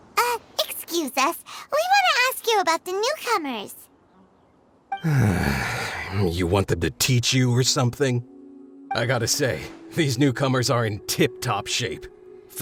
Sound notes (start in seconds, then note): 5.0 sigh